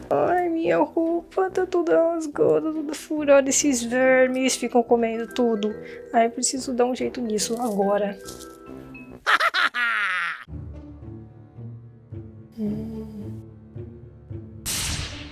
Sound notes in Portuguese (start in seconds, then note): 12.5 Sussurro: Hmm